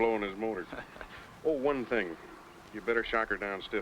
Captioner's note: Mitch laughing